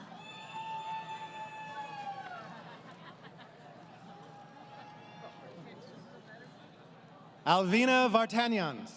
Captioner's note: crowd Cheering